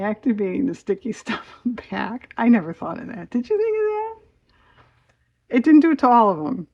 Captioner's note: laughs